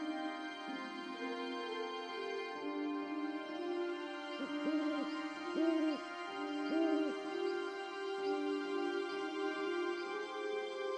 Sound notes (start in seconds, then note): 4.8 owl hoots